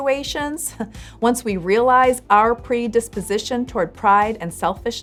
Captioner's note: chuckles